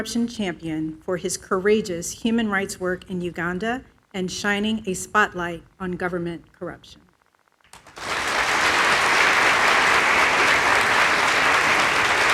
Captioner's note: applause